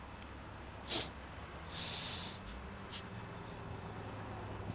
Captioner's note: Krantz sniffs